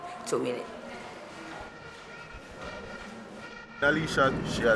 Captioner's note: horns blowing